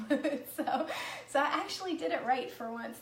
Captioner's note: laughing